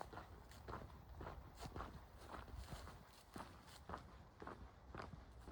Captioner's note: footsteps